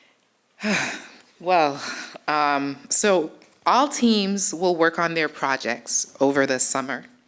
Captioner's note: sighs